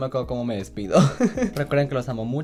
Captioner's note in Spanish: Ríe